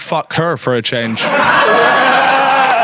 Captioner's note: audience applauds; man cheers